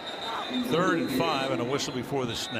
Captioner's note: whistle blows